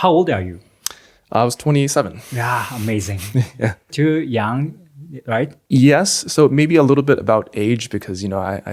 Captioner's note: laughs